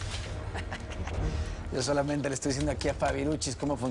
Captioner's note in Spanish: Risas